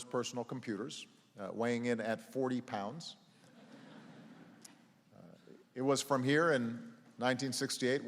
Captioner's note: laughter